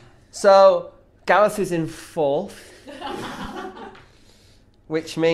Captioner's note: others laugh